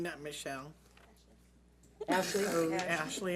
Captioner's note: speaks off mic